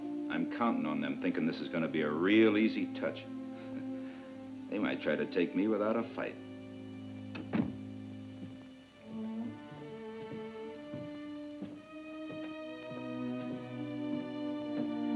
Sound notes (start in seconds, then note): 7.3 door clicks; 9.1 tense music